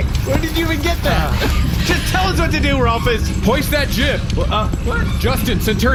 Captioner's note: shouting; commanding